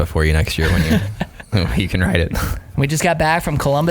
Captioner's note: laughing